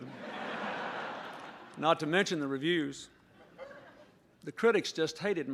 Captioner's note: laughter